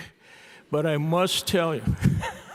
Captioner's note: laughs